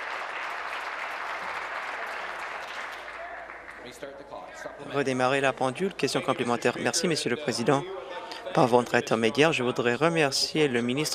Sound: some Applause

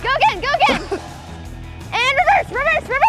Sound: chuckles

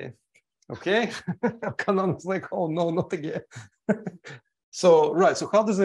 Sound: laughs

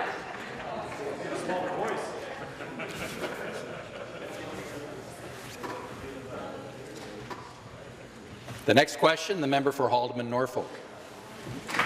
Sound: laughter

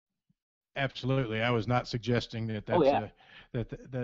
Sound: voiceover

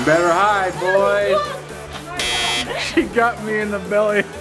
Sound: buzzer buzzes

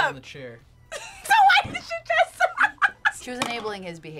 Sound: laughs

